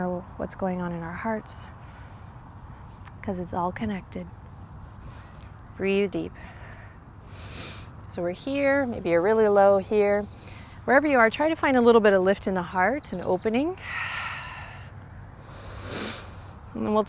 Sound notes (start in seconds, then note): 13.8 blows out breath; 15.5 takes deep breath